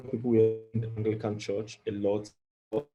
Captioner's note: audio distorts